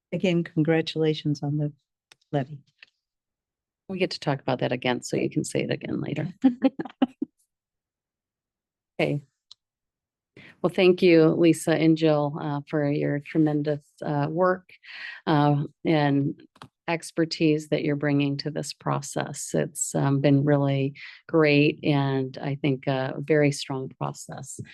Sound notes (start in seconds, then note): 8.2 laughs